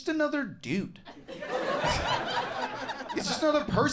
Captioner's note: crowd laughs